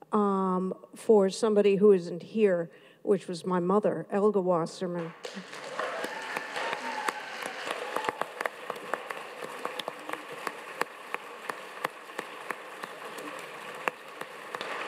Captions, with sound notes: for somebody who isn't here, which was my mother, Elga Wasserman. (audience claps)